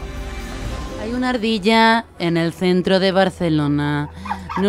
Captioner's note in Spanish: voz de reportera